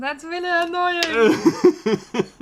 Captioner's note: laughter